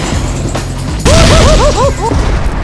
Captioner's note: screams in pain!